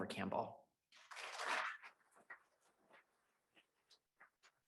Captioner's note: audience claps